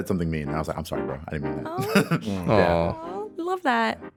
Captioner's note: laughs